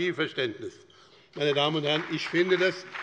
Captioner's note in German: Beifall bei dem BÜNDNIS 90/DIE GRÜNEN und der FDP